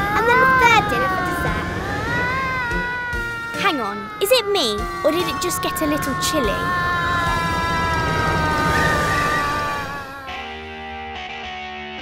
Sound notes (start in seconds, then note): 7.2 moaning